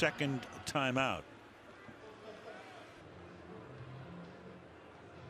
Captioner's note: pa announcement